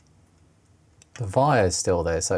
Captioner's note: clicking